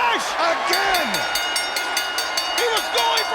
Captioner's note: bell dinging